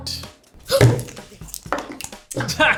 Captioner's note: gasps; laughs